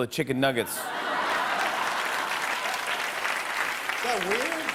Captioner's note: laughter and applause